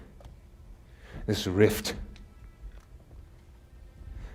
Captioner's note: none